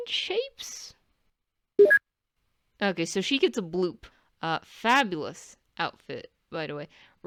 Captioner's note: computer bloop